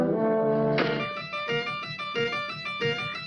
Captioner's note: axe bangs doll's face; sinister music